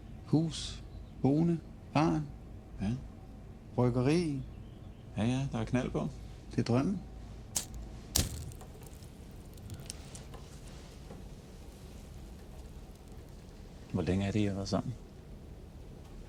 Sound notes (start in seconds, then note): 8.1 lighter sparking